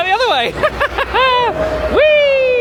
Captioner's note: laughing